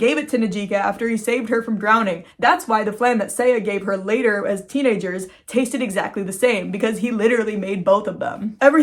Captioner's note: none